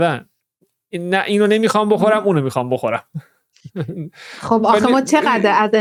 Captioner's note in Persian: خنده